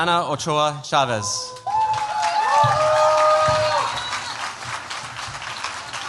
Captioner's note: cheers, applause